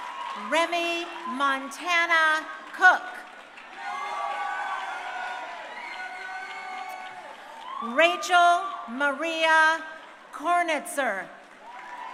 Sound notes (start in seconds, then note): 3.8 crowd cheering; 11.5 crowd cheering